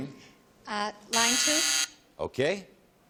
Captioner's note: buzz